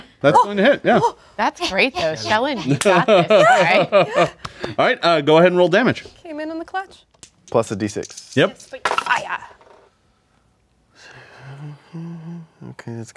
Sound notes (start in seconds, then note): 1.6 player panting; 7.8 dice clatter